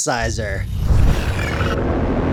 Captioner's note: whoosh